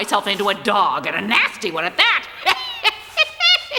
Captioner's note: cackles